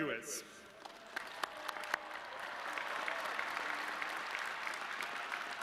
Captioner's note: audience clapping